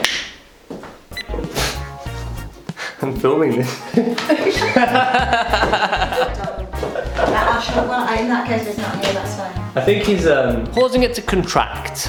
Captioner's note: laughter